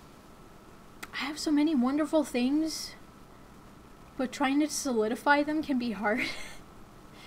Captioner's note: chuckles